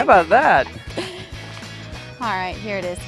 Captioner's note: laughing